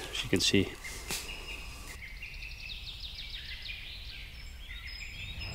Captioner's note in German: Vögel zwitschern